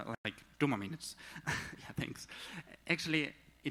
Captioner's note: laughs